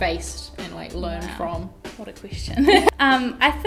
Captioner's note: laughs